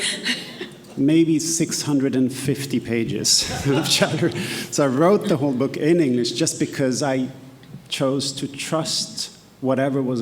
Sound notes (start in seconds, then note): 0.0 laughing; 3.4 laughs